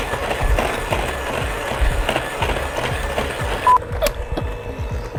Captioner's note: blender whirring